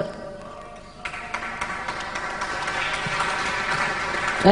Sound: applause

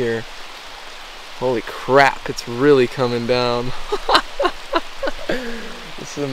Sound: laughing

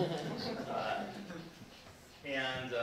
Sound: people laughing

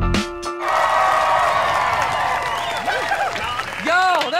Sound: cheering

